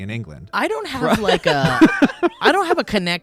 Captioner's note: guys laughing